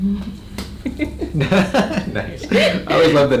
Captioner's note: chuckles; patient chuckles